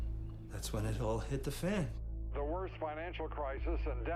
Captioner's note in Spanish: none